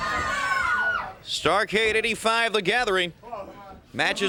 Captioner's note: crowd cheering